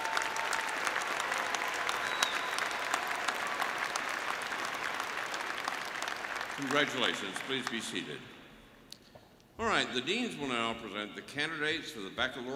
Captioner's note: applause